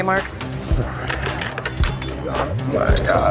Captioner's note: metal clatters